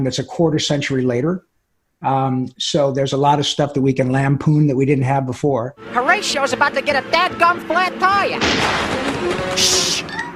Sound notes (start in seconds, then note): 8.4 tire popping; 9.4 shushing